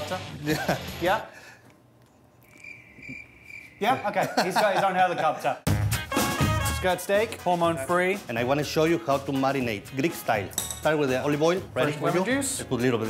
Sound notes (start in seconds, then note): 2.4 crickets chirping